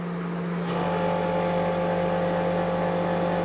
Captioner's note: humming